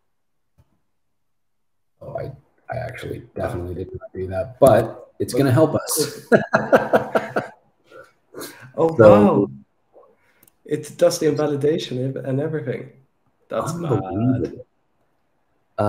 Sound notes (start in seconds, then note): 5.9 laughter